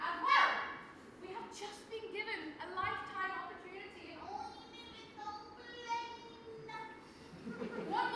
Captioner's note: whiny voice